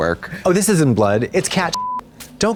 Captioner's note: beep